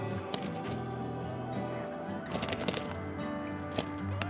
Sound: feathers flapping

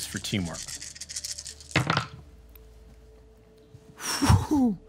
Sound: dice rolling

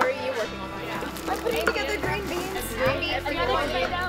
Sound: group chatter

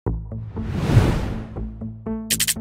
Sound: woosh; technical Sounds

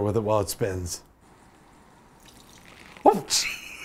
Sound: water splashes

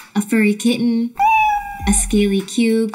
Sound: kitten meows

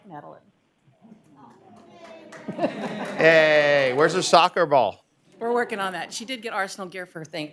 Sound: applause

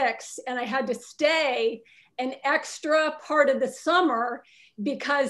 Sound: none

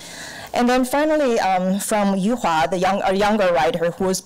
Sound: foreign language

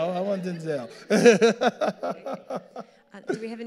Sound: all laughing

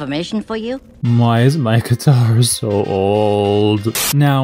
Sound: he says sadly; Static

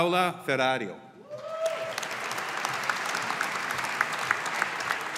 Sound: audience applauding

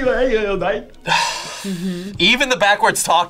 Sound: sighs

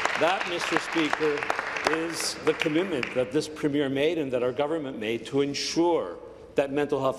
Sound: applause

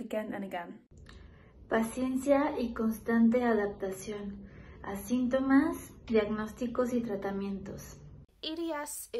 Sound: in spanish

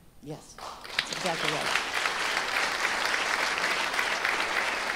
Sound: audience applauding

